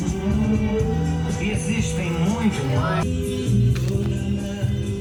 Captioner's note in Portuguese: rádio tocando